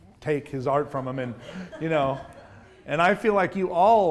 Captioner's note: audience laughs